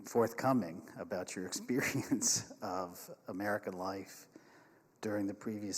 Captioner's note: chuckles